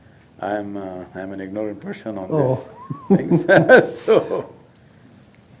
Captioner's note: both laugh